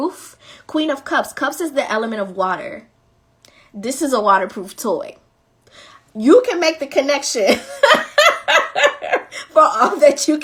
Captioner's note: laughing